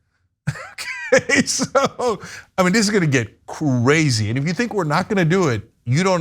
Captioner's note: laugh